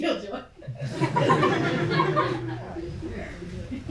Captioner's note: laughs; audience laughs